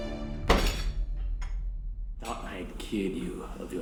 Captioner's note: foot slamming